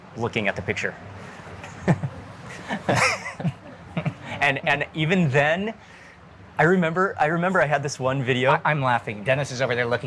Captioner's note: laughing